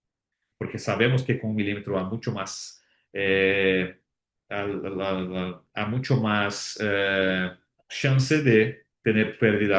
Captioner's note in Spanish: carraspeo